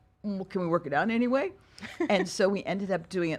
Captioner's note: laughs